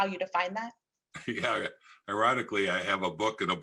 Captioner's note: chuckles